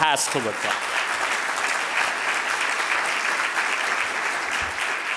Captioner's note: audience applauding